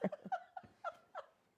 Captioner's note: laughing